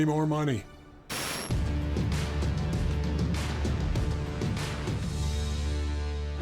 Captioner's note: static crackling; compelling music